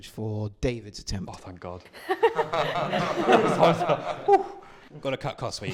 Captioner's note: laughter